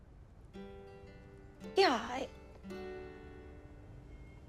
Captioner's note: voice cracks